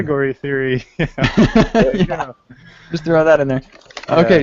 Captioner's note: laughter